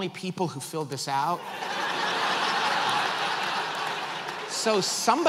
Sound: audience laughs

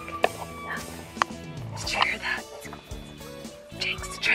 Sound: air horn

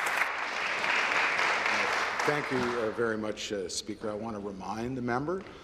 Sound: applause

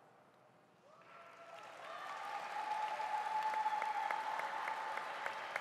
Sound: audience applauding

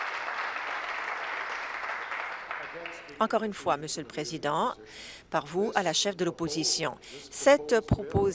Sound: applause

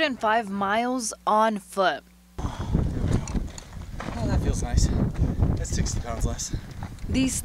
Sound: nats of them walking

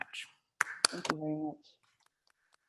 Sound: claps

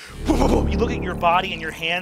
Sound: mimics sound distortion

